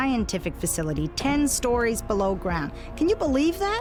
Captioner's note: machine whirring